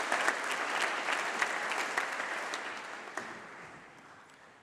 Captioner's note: applause